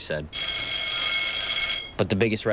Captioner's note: bell ringing